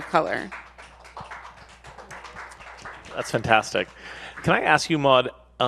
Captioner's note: audience applauds